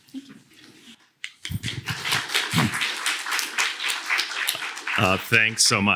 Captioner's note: applause